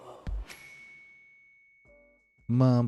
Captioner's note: bell dings